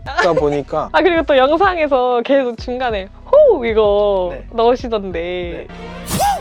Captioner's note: woooo!; woooooooo!